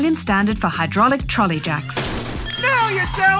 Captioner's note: crash!